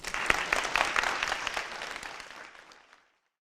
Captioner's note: audience clapping